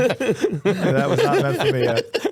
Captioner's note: laughing